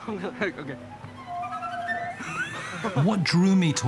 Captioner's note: whistles